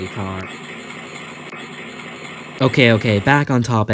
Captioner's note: red ball car driving sound